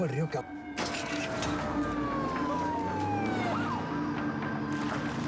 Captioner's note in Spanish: sonido de sirenas